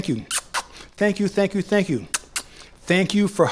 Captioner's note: lipsmack; lipsmack